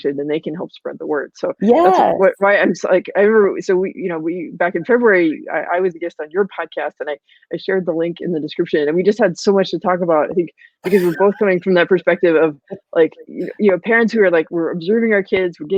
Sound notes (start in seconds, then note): 10.8 laughs